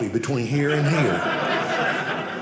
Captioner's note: audience laughing